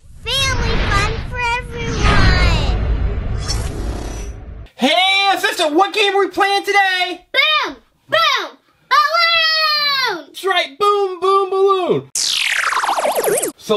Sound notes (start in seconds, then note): 0.4 voiceover; 4.9 voiceover; 7.6 voiceover